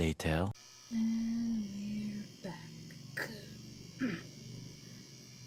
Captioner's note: raspy throat aaaack